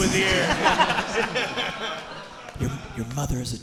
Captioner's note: audience and hosts laughing